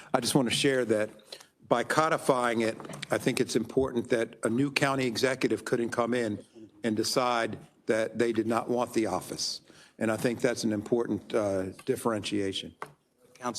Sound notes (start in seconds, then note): none